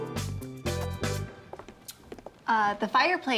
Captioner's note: kisses